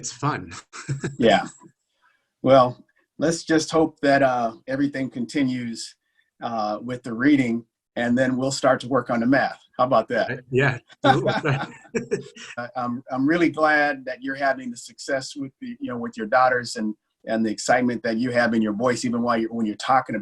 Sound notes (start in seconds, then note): 11.0 both laughing